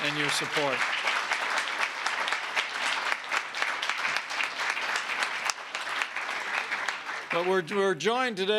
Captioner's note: applause